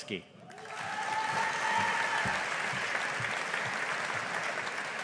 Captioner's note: audience applauding